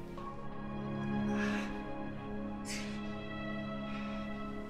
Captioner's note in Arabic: آهات